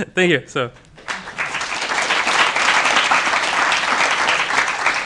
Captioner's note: applause